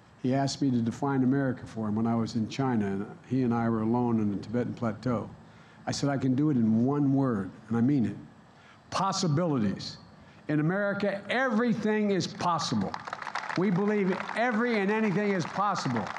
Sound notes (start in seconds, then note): 12.3 applause